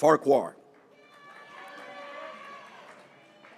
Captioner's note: graduates cheering